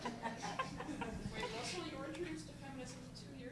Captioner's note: voiceover